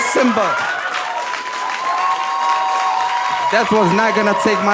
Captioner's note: audience cheering; audience clapping